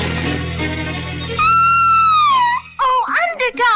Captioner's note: Sweet Polly Purebred Screams